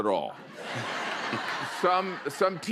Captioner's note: laughter